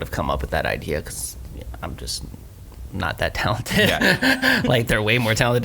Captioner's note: laughs